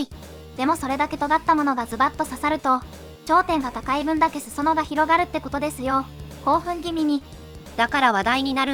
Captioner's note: excitedly